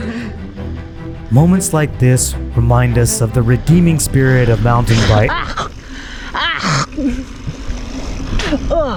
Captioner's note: coughing and gagging